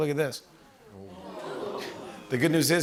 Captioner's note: audience ooh's